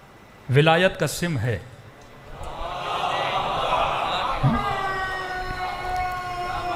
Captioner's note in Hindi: चीखने की आवाज़